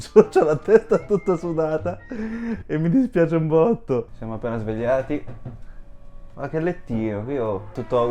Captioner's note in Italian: risate